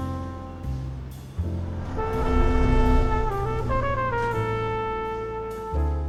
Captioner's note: spaceship whooshes